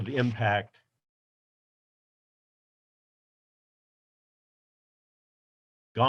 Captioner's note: silence